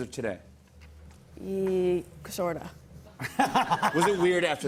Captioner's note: laughter